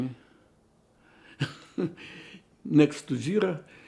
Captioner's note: laughing